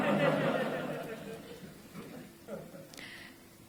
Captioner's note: laughter